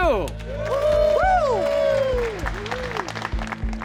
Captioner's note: all cheering, whooping